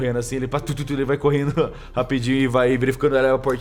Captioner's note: chuckles